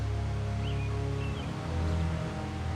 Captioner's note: birds chirping